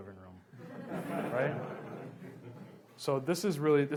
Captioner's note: laughs